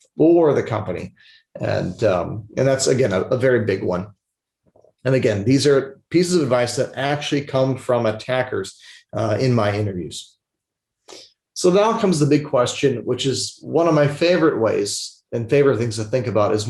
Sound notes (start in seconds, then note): 10.8 mouse clicking